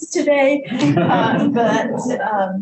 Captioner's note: group laughs